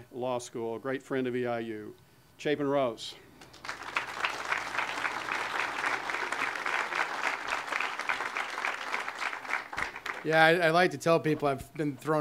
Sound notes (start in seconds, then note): 3.4 audience applause